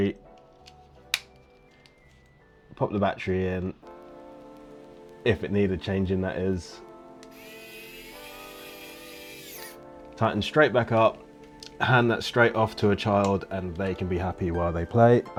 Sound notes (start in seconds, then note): 7.2 screwdriver whirring